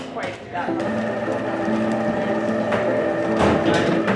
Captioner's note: kitchen clatter